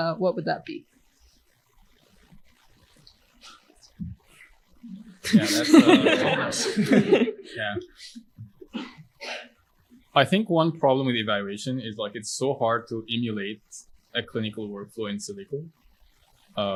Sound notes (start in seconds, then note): 7.6 laughter